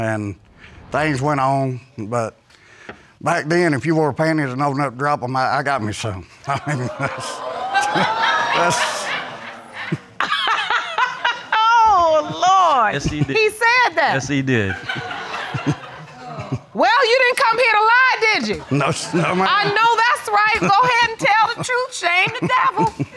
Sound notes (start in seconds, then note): 6.4 chuckles; 6.4 audience exclaiming and laughing; 10.0 laughing; 14.5 audience laughing; 14.6 chuckles